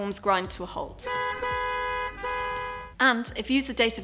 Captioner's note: horns honking